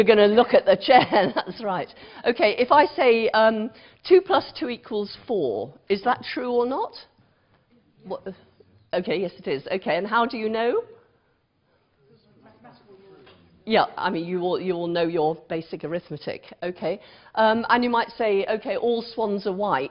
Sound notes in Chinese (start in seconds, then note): 12.0 無聲